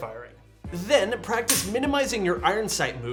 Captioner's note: trigger clicks